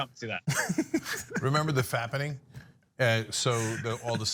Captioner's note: laugh